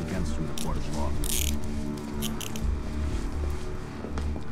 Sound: handcuffs click

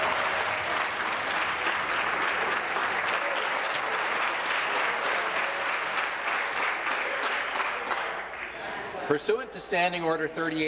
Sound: applause

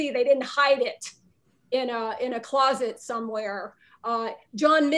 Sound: none

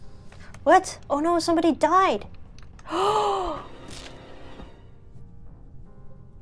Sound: gasps

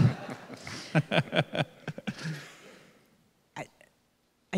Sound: laughing

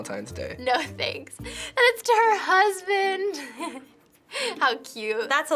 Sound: chuckles

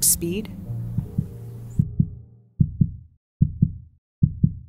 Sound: heart beating

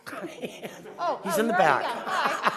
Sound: laughter

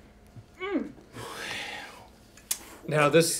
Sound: sighs

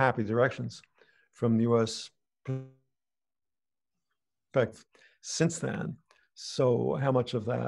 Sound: audio glitch

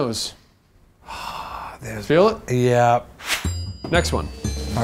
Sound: sigh

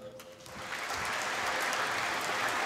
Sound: applause

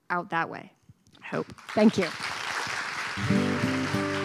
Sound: applause

